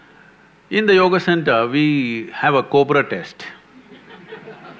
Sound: few laugh

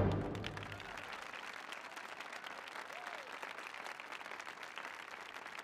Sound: applause and cheers

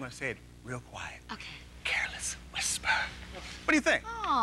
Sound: whispers

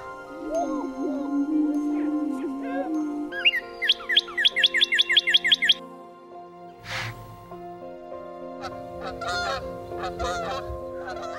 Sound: bird calls

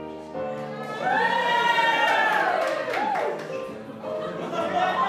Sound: applause

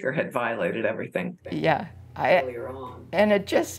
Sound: muttering

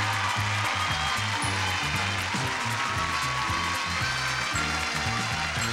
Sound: audience applauds; upbeat music

